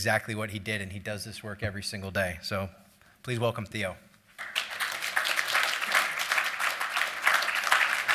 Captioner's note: applause